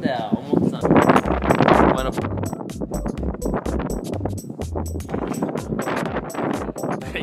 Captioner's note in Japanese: 強風